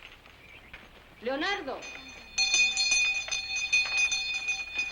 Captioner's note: bells rings